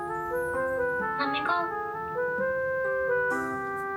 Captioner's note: voice message